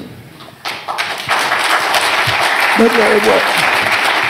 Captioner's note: applause